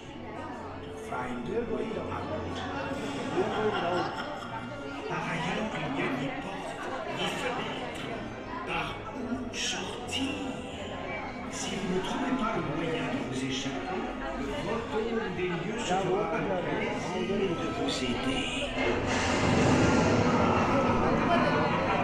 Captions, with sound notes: Find a way out. [Evil laughter] (Phantom Manor speaks French) [Intense Music] [Evil laughter]